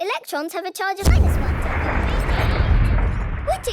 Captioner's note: distant explosion